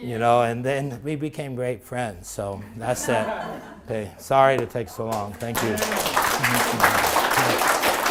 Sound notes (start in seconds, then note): 5.1 applaud